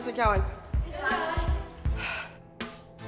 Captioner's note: Abby Lee sighs